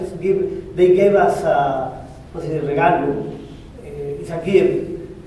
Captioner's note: spanish